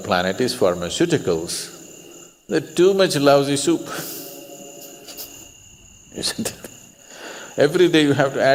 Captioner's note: laughs